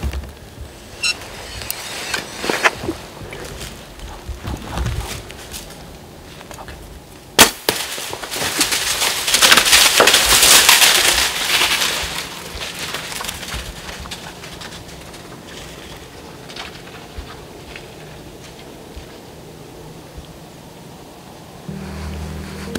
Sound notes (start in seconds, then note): 7.4 sound of bowshot; 9.6 sound of running